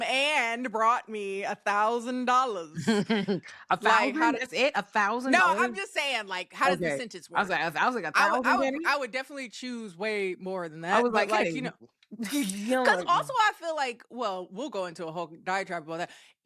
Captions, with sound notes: and brought me a thousand dollars. (laughs) A thousand, how does it, a thousand dollars? No, I'm just saying, how does the sentence work? I was like, a thousand dollars. I would definitely choose way more than that. I was like, getting killed. Because also I feel like, well, we'll go into a whole diatribe about that.